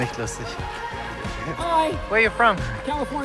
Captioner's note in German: Lachen; auf Englisch